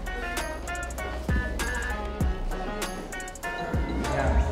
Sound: pat pat

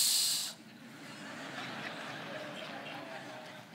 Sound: laughing

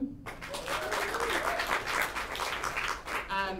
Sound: applause

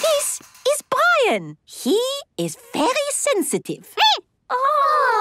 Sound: squeaking

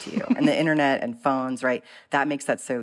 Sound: laughter

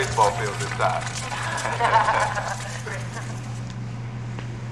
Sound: laughter

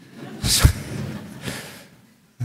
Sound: laughter

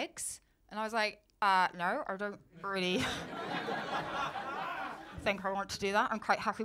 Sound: muffled voice

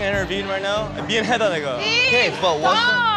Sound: speaking korean

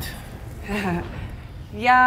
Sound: chuckles

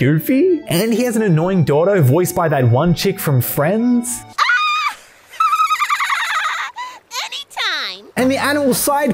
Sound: laugh compilation

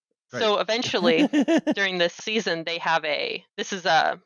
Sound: laughs

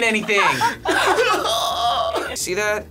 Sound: laughing

